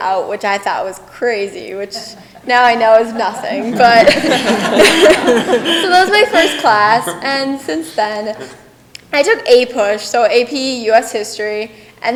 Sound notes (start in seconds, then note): 4.0 people laughing